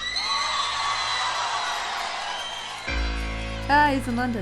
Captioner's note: audience shrieks